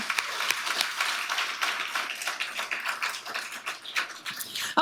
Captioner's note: audience applauding